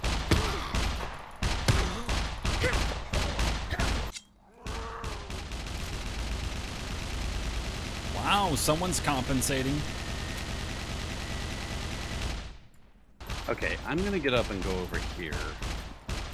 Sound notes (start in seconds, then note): 0.0 mech Gunshots